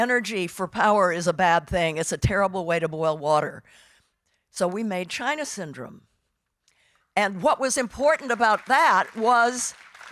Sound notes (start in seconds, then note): 8.2 audience applauding